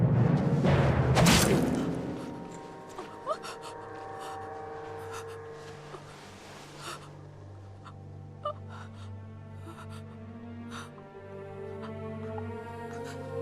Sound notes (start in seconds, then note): 0.2 dramatic music; 1.1 sword thudding; 3.0 Penelope gasping; 10.5 dramatic music